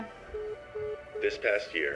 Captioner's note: phone line beeping